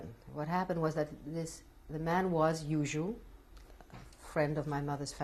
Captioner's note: non-english